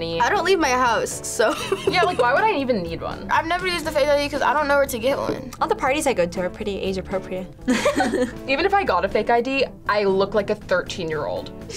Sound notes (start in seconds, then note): 1.5 laughs; 7.6 both laugh